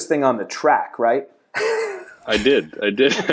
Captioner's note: laughter